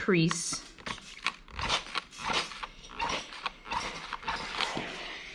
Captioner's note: steam spray squeaking